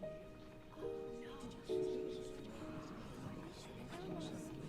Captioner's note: congregation whispering